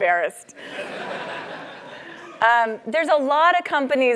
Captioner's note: laugh